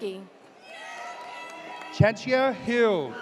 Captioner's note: audience cheers